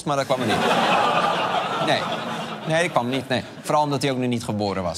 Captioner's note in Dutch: gelach